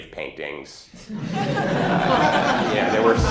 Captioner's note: laughter